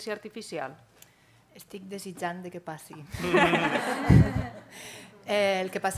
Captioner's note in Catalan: riures